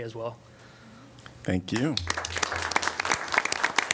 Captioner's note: applause